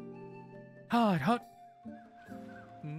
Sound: Mimicking NPC Noises

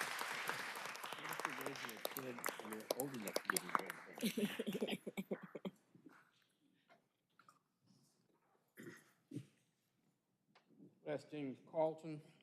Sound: applause

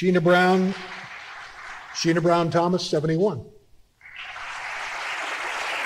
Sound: applause

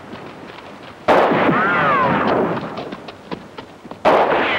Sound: weapon firing

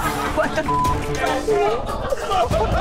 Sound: beep; laughing

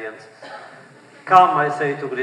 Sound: laughter

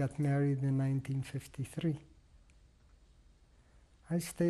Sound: pauses for 3 seconds

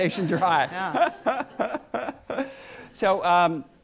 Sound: laughs

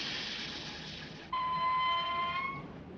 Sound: engine chugging; brakes squealing

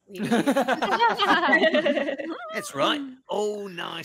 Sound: all laughing

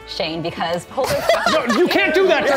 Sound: laughing

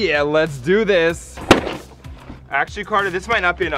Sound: box slamming ground

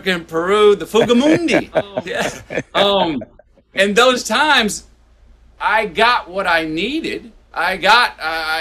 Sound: Sadhguru laughs

